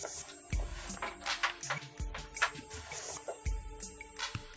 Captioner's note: plugging in cable